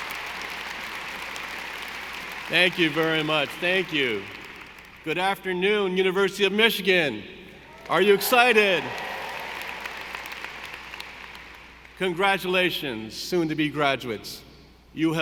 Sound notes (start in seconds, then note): 7.7 audience applauding; 7.7 audience cheering